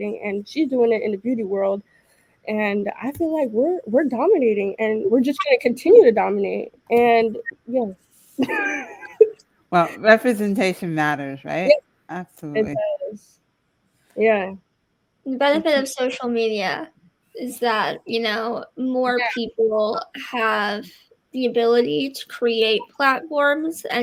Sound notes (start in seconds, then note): 8.4 laughing